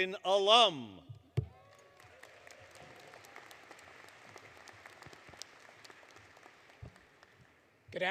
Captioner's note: applause